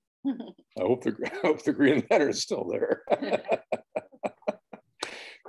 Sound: laughs

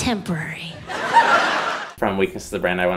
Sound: audience laughs

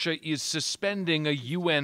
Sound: speaking alternate language

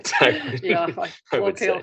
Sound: inaudible laughter

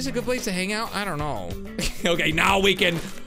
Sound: laughs

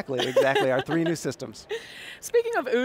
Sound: laughing

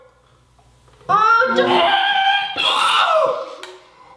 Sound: screams

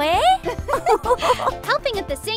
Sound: both girls laugh

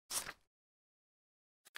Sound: paper unfolds

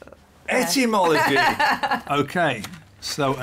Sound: laughs

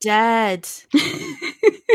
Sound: laughs

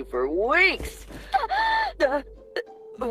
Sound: Young Jules gasps

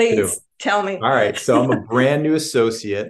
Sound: laughs

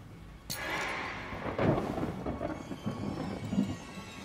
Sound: A horror SFX plays as V's glasses drop

